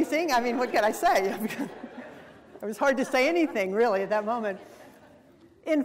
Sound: laugh

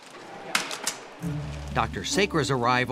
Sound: gurney legs going up

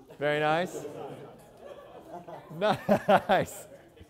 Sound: laughter

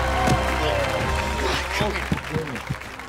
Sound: moaning

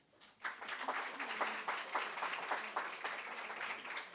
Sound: applause

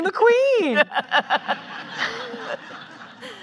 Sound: laughing

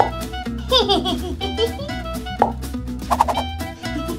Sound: giggles

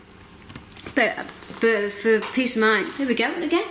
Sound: click

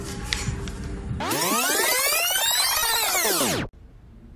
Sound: rewind sound effect

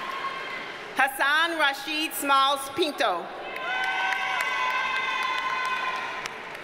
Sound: audience cheers and applauds

